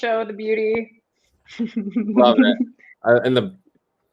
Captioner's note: laughter